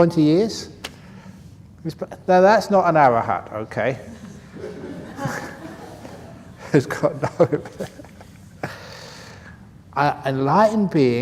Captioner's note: laughter